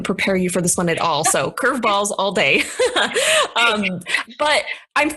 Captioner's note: laughs